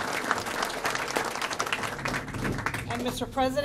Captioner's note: applause